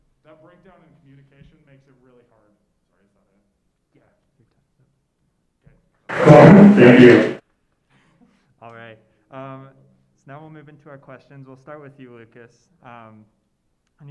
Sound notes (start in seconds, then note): 6.1 feedback noise